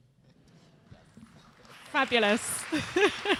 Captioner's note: applause